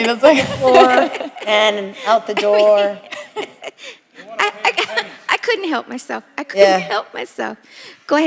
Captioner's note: laughter